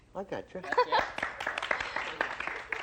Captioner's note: laughs